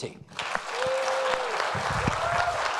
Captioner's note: applauding